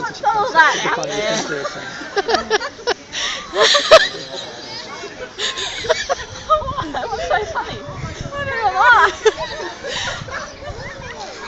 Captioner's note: laughs